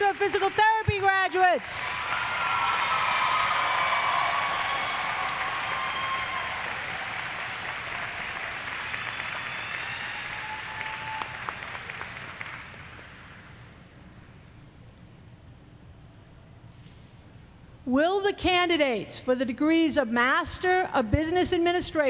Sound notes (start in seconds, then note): 4.0 applause; 4.4 cheers; 5.9 applause